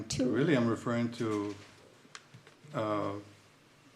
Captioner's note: none